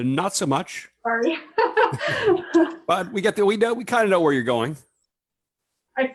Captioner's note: laughs